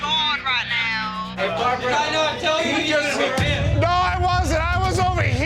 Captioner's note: customers chattering